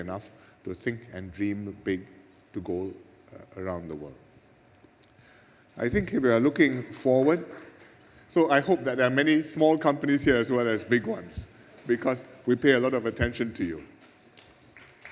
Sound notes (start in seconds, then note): 7.3 beginnings of an applause